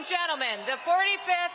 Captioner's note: applause